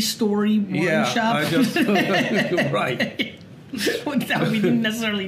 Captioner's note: both laughing